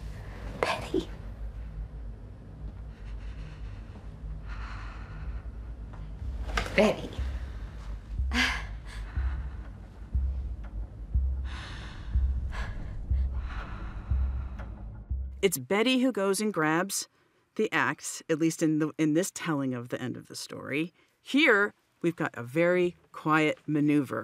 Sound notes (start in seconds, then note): 0.6 soft voice; 2.5 betty gore breathes nervously; 6.5 louder voice